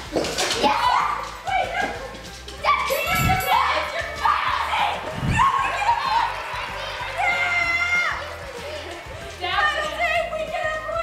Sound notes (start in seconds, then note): 0.2 excited laughter; 2.8 bell chime